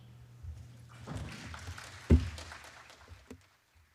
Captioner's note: applause